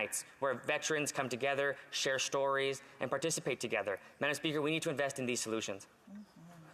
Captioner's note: none